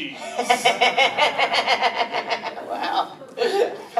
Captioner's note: nerdly laugh